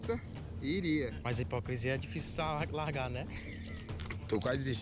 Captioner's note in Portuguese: risada